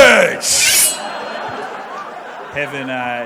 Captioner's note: knife slicing sound